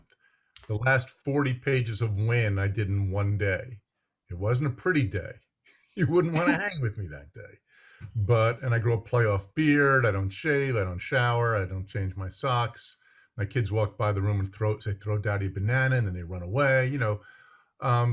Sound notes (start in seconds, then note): 6.0 laughs